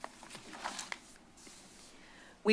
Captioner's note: rustles